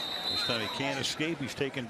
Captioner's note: whistle